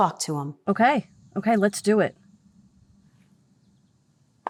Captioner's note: exhales